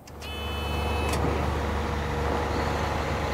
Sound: engine running; truck moving

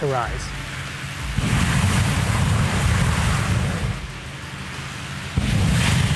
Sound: loud flame from burner

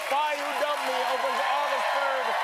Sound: cheers and applause

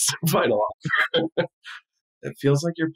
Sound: laughing

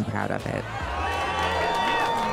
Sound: cheers

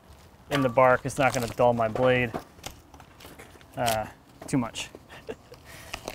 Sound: laughs

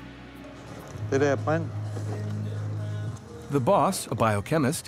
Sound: speaking in foreign language

